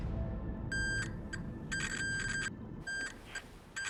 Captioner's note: speaking over radio; metal detector beeping